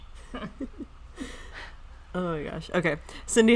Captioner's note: everyone laughing